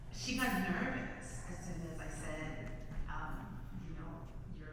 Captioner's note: none